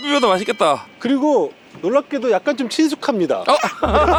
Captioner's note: hesitates